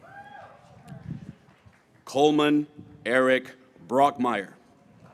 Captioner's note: graduates cheering